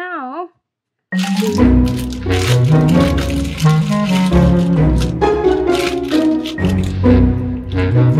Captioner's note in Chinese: 邊哼歌邊拆封